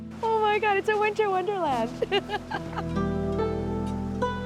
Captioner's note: laughs